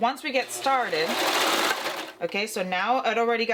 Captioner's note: machine clanking